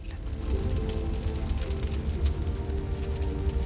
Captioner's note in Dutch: vuur knettert